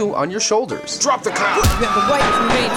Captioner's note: gunfire